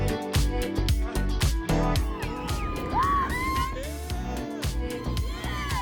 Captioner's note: crowd cheering